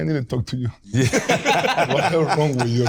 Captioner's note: more laughter